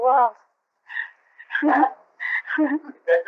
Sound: laughter

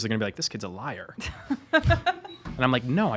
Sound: laughing

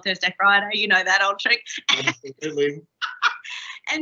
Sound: laughing

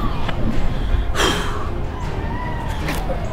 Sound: exhales

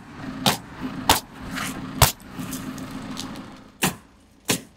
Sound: nail gun bangs

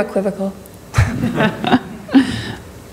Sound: laughing

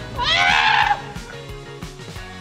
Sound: screaming

